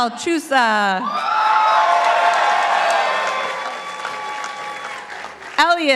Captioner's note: participants applauding